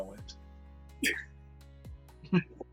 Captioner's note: laughs